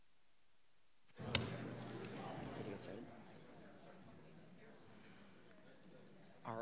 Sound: everybody faintly chatting; button clicking

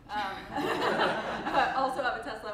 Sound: crowd laughs

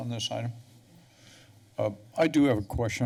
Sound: pause

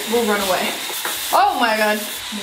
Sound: cleaning brush continues whirring

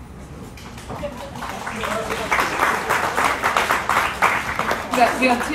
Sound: audience applauds

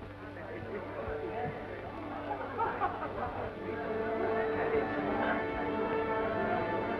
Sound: crowd chattering; orchestra tuning

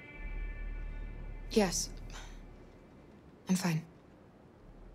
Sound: sigh

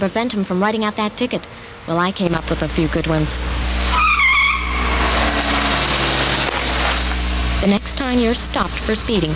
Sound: car screech

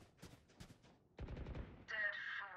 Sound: gun fires

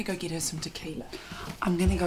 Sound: inhales

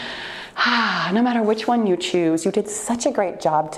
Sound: loud exhale

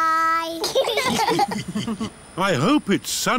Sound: laughter

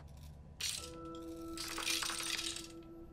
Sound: pills clattering

